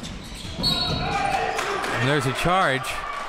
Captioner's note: whistle blows